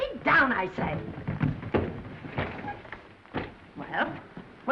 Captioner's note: trunks thudding